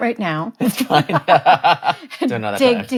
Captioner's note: laughing